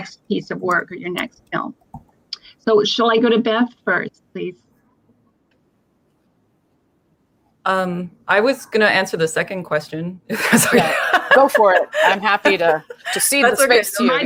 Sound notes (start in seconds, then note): 10.3 laughter